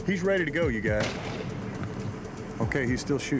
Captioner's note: gunshot